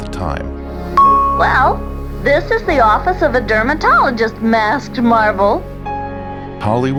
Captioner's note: bell sound